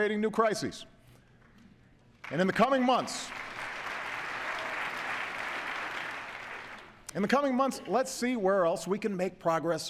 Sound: applause

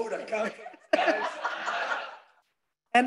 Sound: laughter

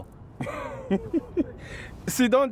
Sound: laughter

